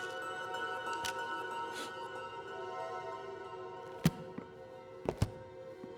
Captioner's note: eerie music continues; Chef sniffs